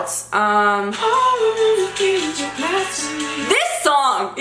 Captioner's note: humming